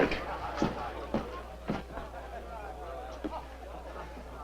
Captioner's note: guests chatting